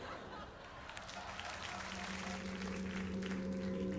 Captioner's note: applause